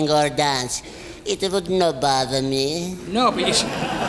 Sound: audience laughing; laughs

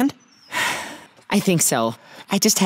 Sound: sighs

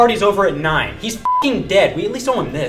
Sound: beep

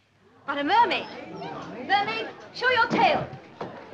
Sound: murmuring

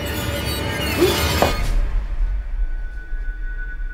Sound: frightened gasp

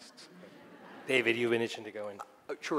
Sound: audience laughing

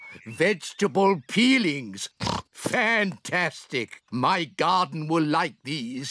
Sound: oinks

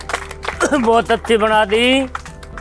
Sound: coughs

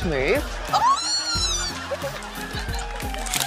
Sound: squeals

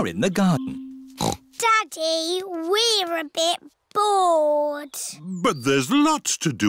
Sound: snorts

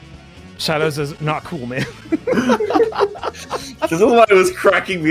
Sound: laughter

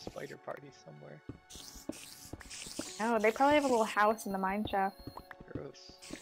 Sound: crazy amounts of spider noises

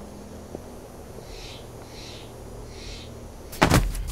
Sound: birds squawking; bags thudding

